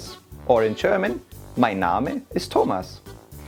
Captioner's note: speaks in foreign language